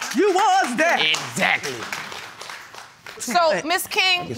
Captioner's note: applause